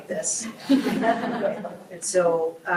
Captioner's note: group laughs